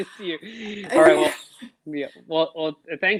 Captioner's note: laughs